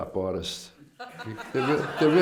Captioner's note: laughter